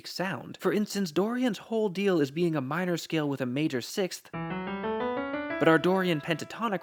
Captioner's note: bang